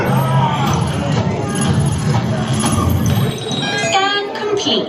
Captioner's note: whistling; mechanical ringing